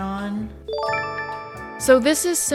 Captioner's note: chime